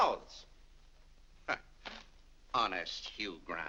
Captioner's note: scoffs